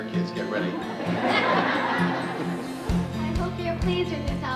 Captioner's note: pupils laughing